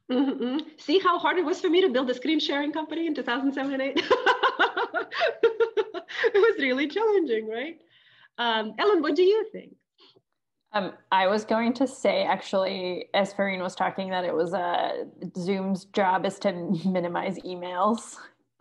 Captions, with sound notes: - See how hard it was for me to build a screen-sharing company in 2007 and eight (laughing)? It was really challenging. Ellen, what do you think? - I was going to say actually as Farrin was talking that it was a Zoom's job is to minimize emails.